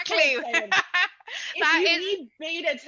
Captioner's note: laughs